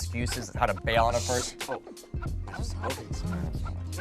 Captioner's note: shushing